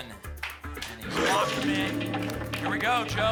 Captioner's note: lock sound